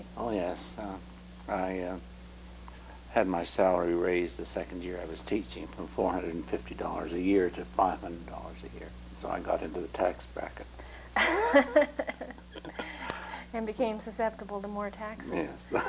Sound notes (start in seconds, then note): 11.2 laughter